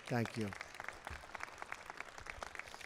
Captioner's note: applause